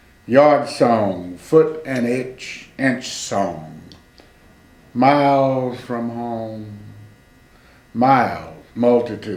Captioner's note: in a singing tone